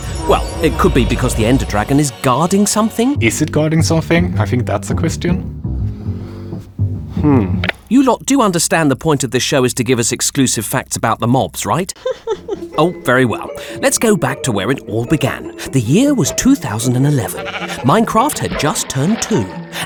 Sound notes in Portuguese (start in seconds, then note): 11.9 Risos